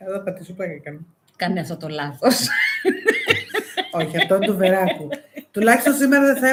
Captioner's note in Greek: γέλια